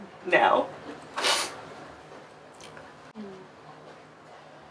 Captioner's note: nose sniffling